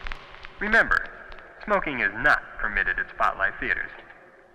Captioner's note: man On PA